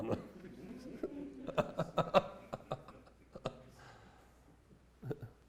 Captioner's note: chuckles from audience